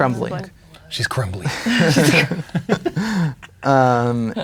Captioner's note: players laughing